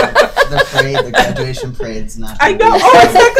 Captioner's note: laughing